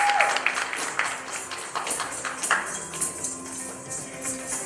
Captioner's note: applause; coins jingling